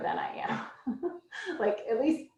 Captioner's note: laughs